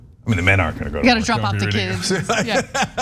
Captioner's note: laugh